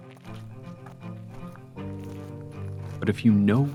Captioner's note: footsteps